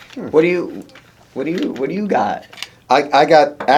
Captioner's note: stutters